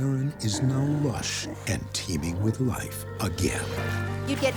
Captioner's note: water splashing